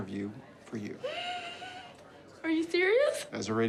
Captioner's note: gasps